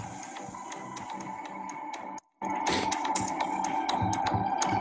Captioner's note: digital ticking